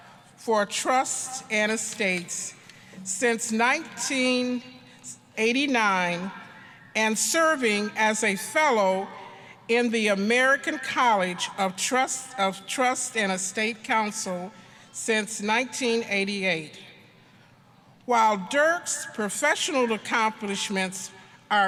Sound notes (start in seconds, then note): none